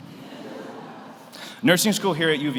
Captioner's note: audience laughs